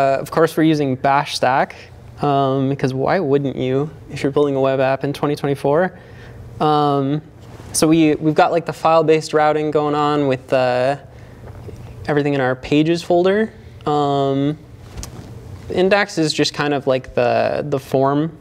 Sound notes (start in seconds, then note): none